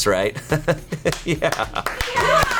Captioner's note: laughs; colleagues applauding